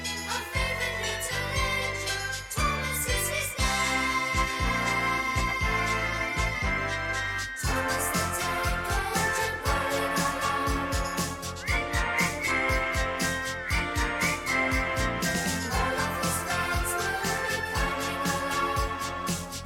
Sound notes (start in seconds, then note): 11.1 whistling